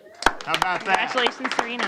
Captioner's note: applause